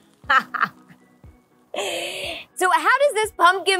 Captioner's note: laughs